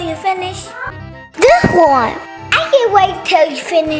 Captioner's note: magical ting